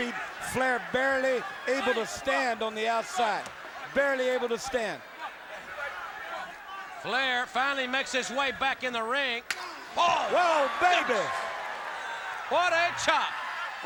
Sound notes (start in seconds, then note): 5.2 audience chattering